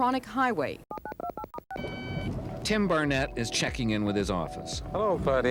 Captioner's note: electronic beeps